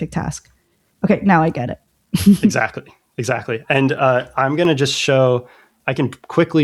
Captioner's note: laughter; uh